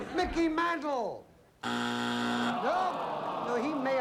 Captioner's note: buzzer